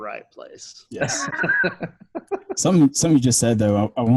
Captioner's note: laughs